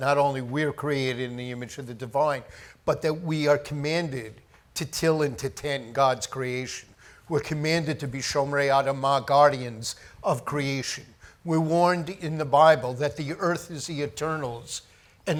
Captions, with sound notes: not only we are created in the image of the divine, but that we are commanded to till and to tend God's creation. We're commanded to be (speaks foreign language) guardians of creation. We're warned in the Bible that the earth is the Eternal's